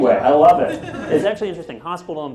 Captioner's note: laughter